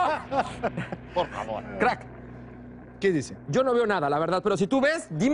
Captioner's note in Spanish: risas